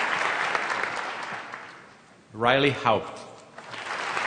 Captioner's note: applause; applause